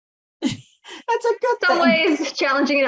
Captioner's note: chuckles